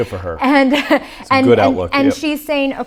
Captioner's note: laughs